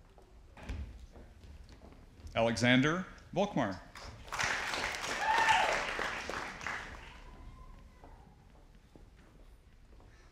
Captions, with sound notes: Alexander Volkmar. (audience applauding)